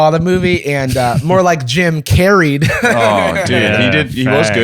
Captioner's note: laughs